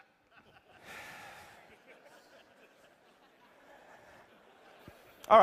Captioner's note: laughter